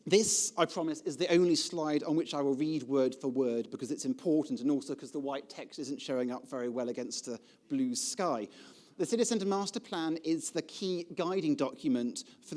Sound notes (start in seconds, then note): none